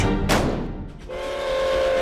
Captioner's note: gunshot; train whistle